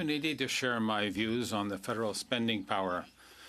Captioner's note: speaking French